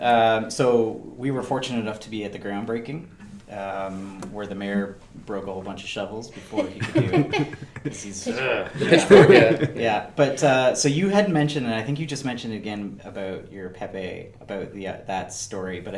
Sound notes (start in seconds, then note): 6.4 laughing